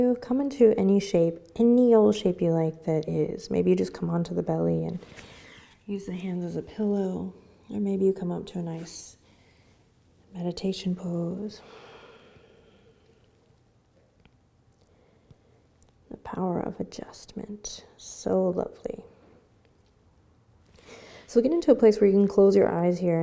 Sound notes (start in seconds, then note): 11.6 breathing